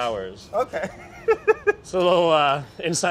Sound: laughs

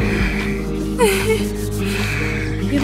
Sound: giggle

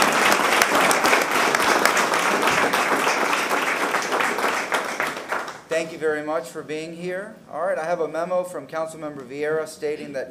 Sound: applause

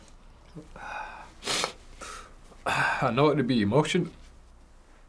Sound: sniffs

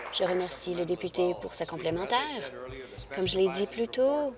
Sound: applause

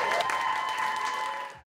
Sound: audience cheering

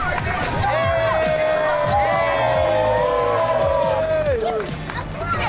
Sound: group cheering; group chattering

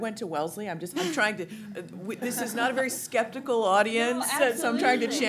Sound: laughter

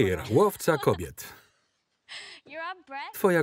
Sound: laughter

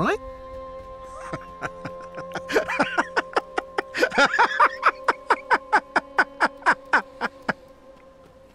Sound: laughing

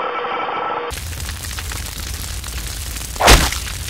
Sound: fire crackling

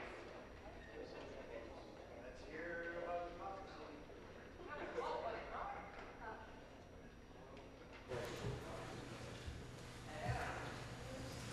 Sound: applause

